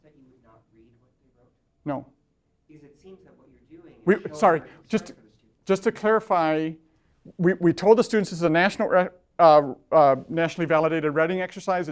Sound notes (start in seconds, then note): 2.8 voiceover